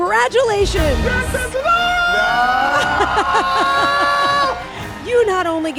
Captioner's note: Karamo and Jason Rachel screaming